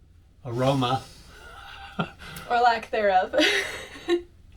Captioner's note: laugh